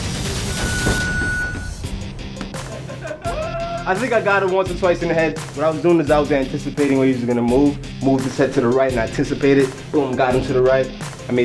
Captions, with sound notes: (round timer sounds) - I think I got him once or twice in the head. What I was doing is I was anticipating when he was going to move. Moved his head to the right, and I anticipated it, got him to the right.